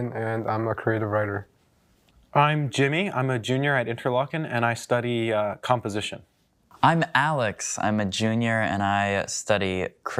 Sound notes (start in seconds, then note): none